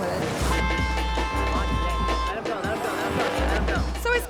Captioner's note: car honking